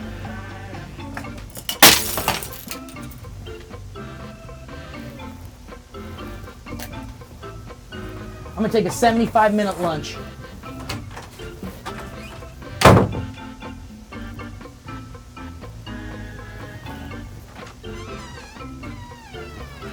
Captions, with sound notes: (glass breaking) I'm gonna take a 75 minute lunch.